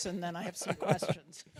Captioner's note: laughs